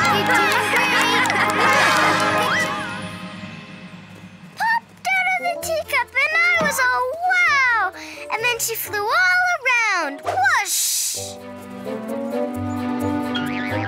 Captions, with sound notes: - All right! - You're doing great! (Elephant trumpets) - Great job! - Popped outta the teacup and I was all, wow! And then she flew all around. Whoosh! (light music)